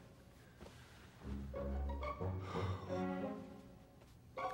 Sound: sighs

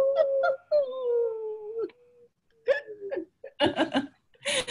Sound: laughing

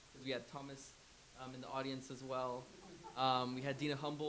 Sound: laughs

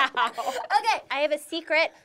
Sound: laughing

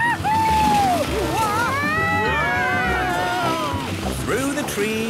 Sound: all screaming excitedly

